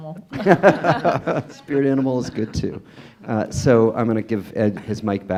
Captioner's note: laughs